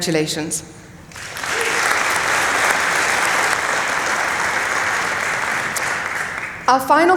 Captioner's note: applause